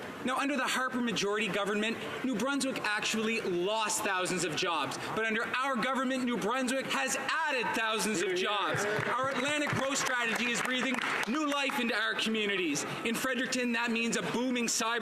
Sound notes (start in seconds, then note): 11.8 some Applause